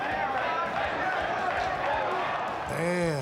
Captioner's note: audience chanting